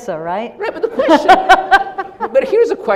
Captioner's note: Gina laughs